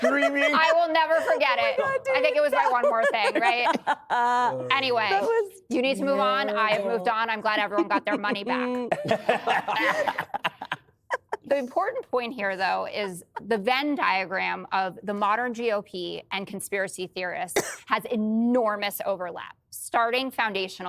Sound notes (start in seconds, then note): 4.3 laughter